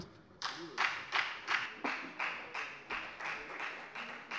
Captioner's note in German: Beifall bei der FDP